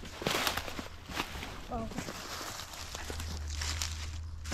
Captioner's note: leaves crunching